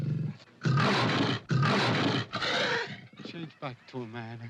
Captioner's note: panther hisses & growls; panther roars